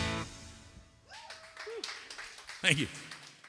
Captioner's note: applause